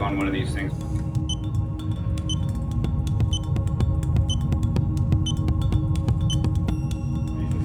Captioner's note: dramatic music; clock beeping